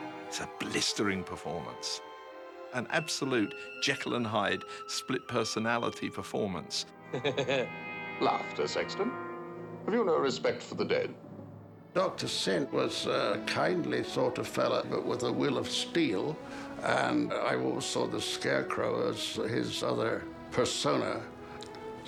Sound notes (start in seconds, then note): 7.0 laughing